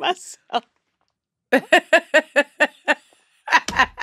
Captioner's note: laughter